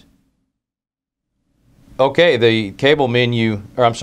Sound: pause

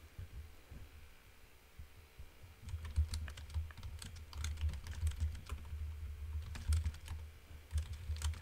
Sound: keyboard typing

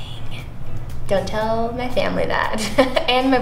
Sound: laughs

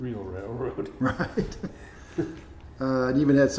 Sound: laughing

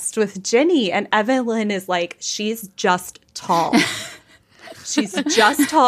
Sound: laughing

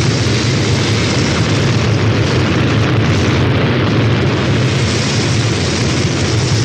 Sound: rocket noise

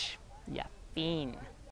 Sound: host speaks in foreign language

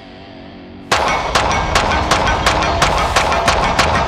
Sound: gun shooting; upbeat music; gun shoots

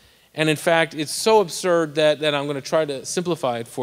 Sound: none

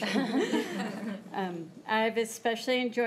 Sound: crowd giggling

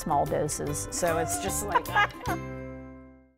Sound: laughter

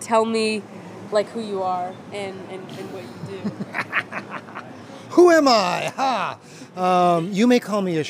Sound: laughter

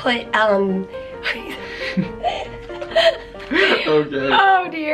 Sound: both chuckling

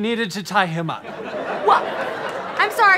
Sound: audience laughter

